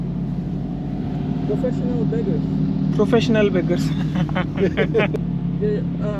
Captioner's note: chuckles